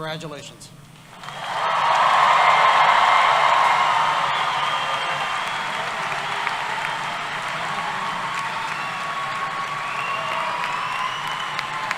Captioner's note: applause and Cheering